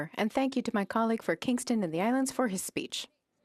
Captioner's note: speaking French